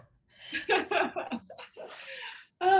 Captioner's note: chuckling; both chuckling